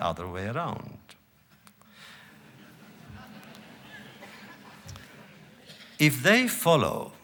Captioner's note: laughter